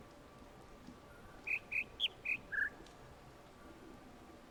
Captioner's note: bird chirps ˧ ˧ ˥ ˧ ˩